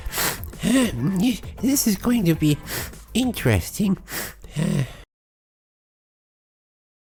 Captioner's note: wheeze; sniief